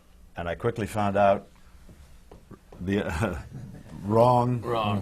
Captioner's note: laughs